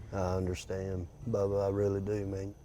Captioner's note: none